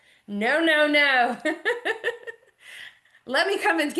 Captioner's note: chuckles